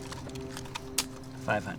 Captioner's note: gun clicks